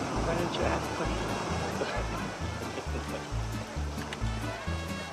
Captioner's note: laughs